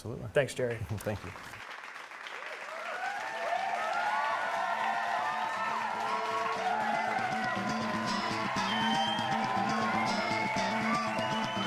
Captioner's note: applause